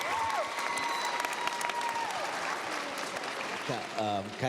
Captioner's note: cheers, applause